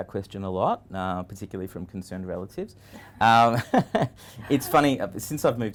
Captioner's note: chuckles